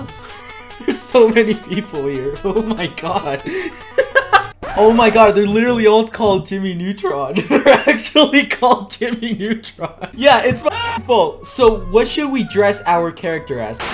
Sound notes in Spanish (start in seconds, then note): 3.6 Risas; 7.3 entre risas; 7.4 Mas risas